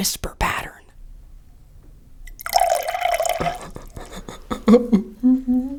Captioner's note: loud laughing; liquid pouring into glass